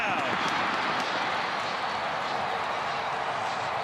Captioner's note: crowd cheering